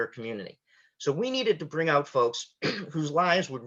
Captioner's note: clears throat